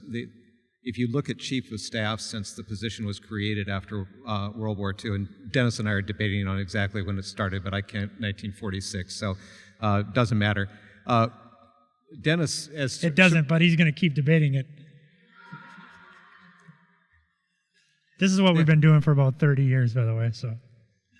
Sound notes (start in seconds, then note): 15.4 audience laughter